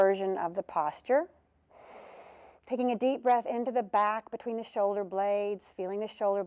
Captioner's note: breath sound